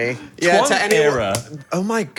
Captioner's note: overlapping chatter